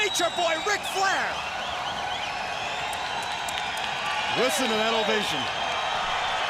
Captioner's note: crowd cheering